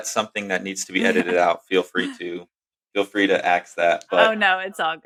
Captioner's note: <laugh>